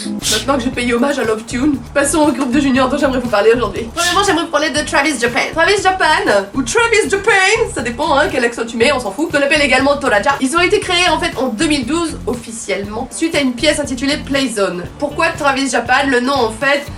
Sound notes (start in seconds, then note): 6.0 NB: French accent